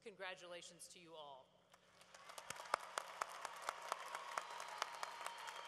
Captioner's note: cheering